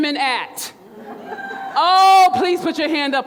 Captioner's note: crowd laughs